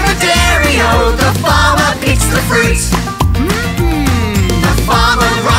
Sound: mm mm

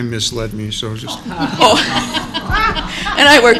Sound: laughter

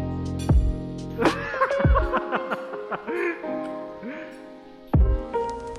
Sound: laughing

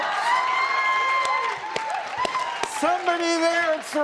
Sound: applause

